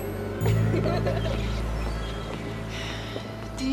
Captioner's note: girls laughing